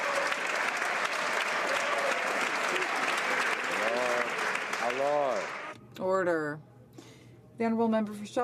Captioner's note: some Applause